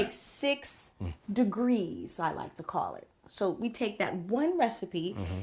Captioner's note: none